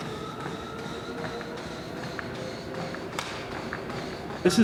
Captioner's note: treadmill whirring